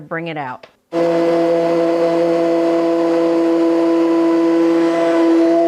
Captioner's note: blender whirring